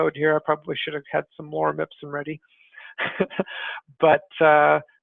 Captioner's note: laughs